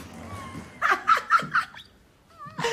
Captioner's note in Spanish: Risas